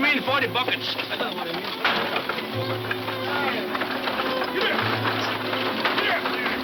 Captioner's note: laughing; wheels clanking; muffled shouting